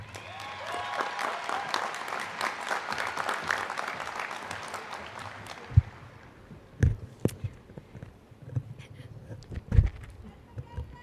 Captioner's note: applause